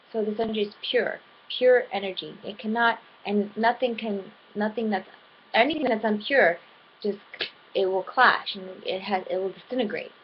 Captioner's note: clap